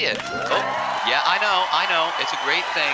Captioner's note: crowd goes wild